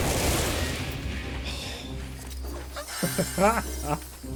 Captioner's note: gunshots